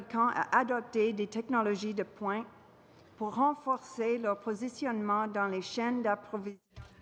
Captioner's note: speaking french